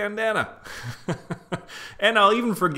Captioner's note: chuckles